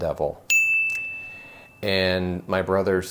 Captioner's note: bell rings